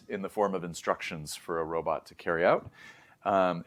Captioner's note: inhales